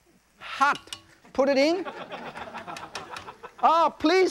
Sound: audience laughs

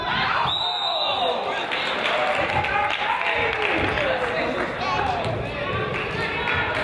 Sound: whistle blows; crowd applauds and yells

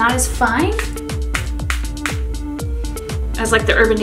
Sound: bottle dispenses spray

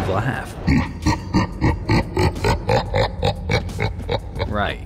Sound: loud creepy laugh plays

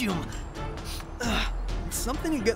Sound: sniffs

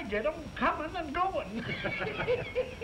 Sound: laughter

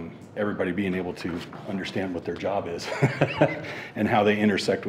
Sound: chuckling

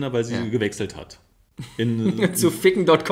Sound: laughs

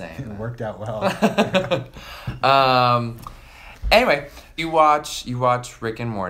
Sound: laughs

